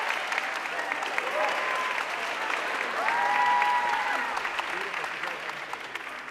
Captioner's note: audience cheering and applauding